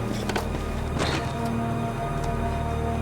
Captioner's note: thud